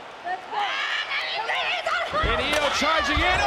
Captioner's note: Io screaming